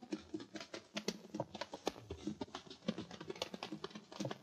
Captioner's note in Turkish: ayak sesleri̇